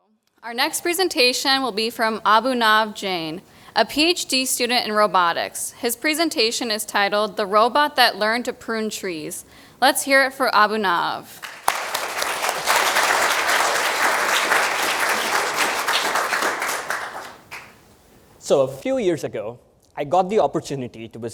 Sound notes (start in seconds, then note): 11.4 applause